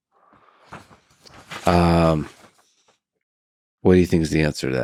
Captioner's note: paper crinkles